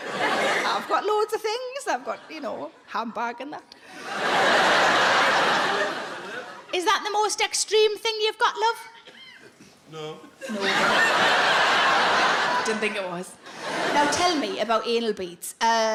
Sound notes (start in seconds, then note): 3.9 audience laughs; 10.4 audience laughs